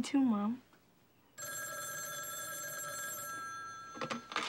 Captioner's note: phone rings